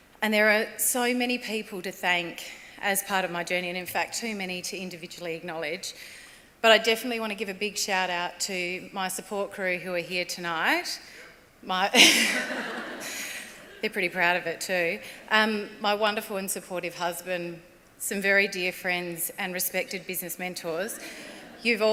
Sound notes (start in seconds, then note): 12.0 laughs